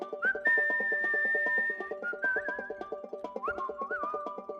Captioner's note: whistling